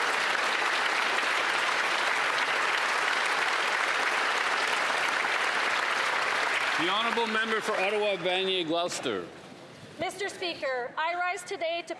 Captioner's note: applause